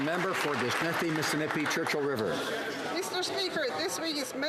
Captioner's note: some Applause